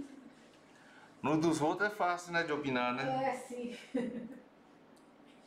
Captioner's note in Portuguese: risos